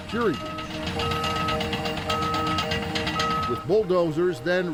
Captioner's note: bulldozer beeping